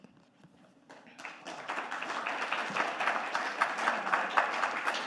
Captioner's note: audience clapping